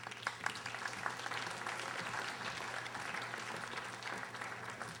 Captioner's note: audience applauding